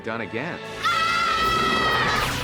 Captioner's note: screaming